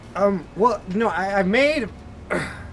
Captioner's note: stammering